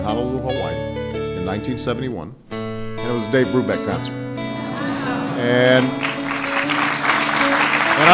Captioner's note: laughter and applause